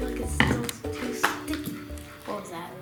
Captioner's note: bottle hits the floor